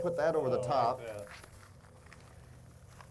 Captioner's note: sauerkraut squelches